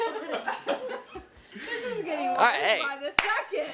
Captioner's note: laughter